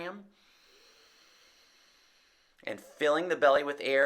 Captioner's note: inhales